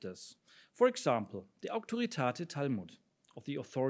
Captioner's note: speaks in foreign language